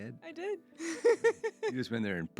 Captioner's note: laughs